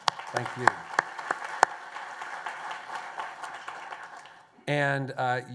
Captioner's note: applause